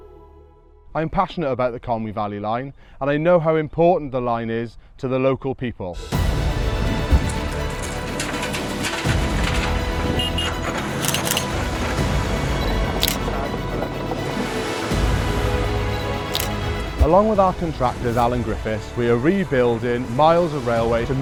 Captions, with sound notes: I'm passionate about the Conwy Valley Line and I know how important the line is to the local people. (crunching) (beeping) (camera shutter clicking) Along with our contractors Alun Griffiths, we are rebuilding miles of railway